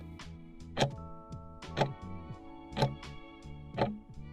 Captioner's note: timer ticking